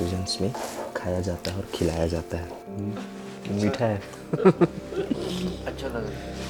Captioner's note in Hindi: हंसी